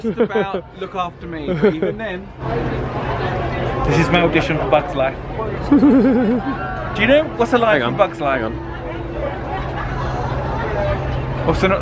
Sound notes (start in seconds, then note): 5.6 laughs